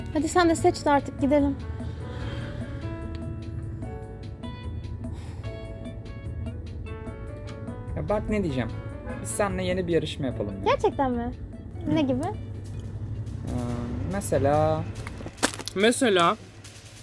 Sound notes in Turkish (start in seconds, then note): 4.2 yağmur iç çeker